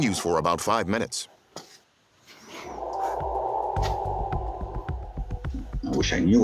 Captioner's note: eerie sound